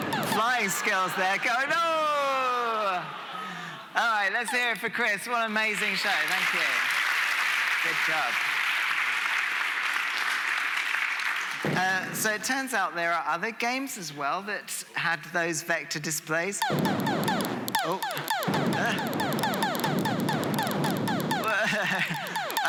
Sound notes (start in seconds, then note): 8.8 applause